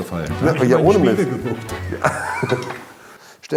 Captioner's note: laugh